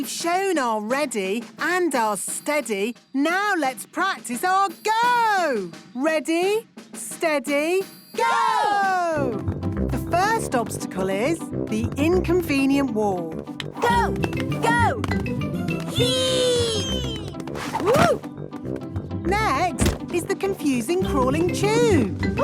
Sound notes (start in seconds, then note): 19.7 thumps